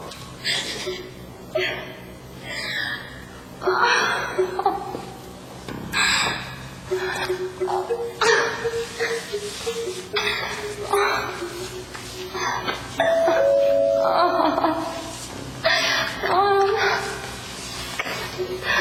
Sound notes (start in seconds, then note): 0.3 crying; 13.0 doorbell